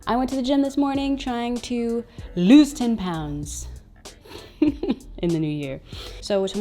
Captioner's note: chuckles